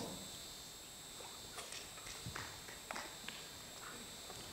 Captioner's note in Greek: Παλαμάκια από το ακροατήριο